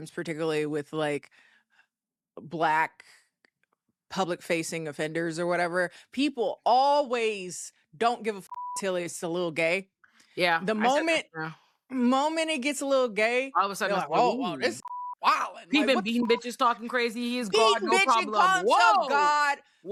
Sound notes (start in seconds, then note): 8.5 beep